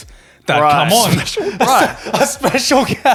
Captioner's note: laughing; chuckles